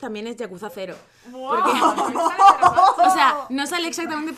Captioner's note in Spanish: risas